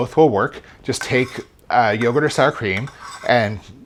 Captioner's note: spoon scraping